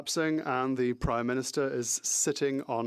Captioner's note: speaking French